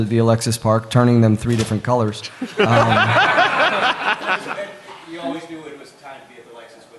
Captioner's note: laughter